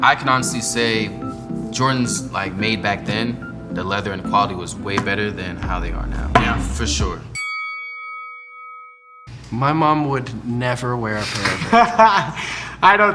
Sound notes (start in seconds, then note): 7.3 bell chime; 11.2 laughing loudly